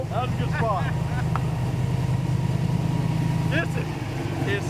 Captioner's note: laughing